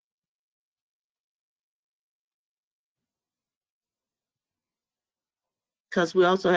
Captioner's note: 5 seconds pause